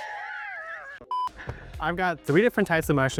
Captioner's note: laughing; tone beeping